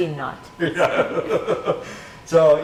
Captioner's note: laughing